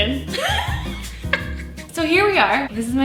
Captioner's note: laughing